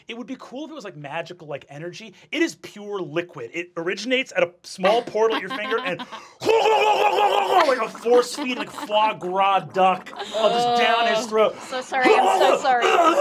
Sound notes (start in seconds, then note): 5.3 shouting